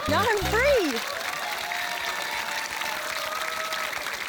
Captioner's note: cheering, applause